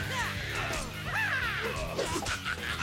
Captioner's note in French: créatures qui grognent